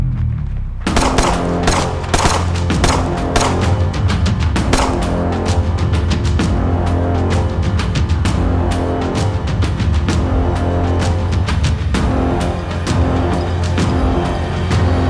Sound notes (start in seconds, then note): 0.9 gunshot booming; 6.4 suspenseful music continues